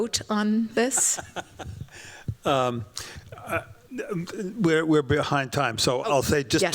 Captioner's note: chuckles